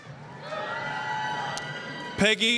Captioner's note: applause, cheering